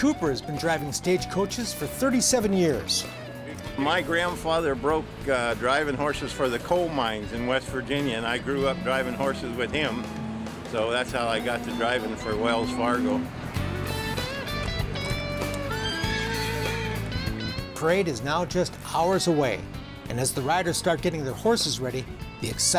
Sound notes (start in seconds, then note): 15.6 horse whinnying